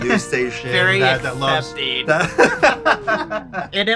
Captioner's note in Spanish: risas